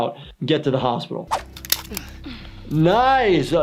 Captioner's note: staple gun clicking